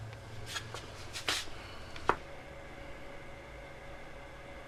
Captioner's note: engine whirs; feet shuffling